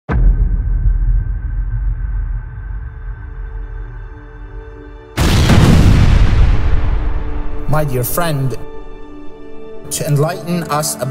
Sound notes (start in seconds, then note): 0.2 dramatic music; 5.1 crash